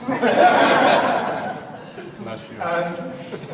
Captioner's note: audience laughs